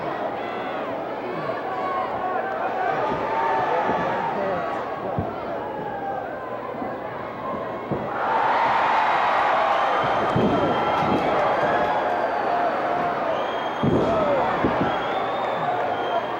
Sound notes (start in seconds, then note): 8.5 crowd cheers